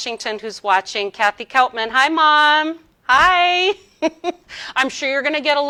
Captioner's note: laughs